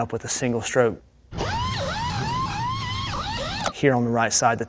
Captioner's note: tools whirring